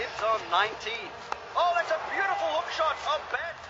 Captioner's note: bat cracks